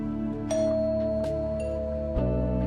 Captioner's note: doorbell